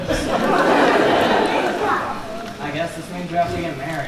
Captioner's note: laughter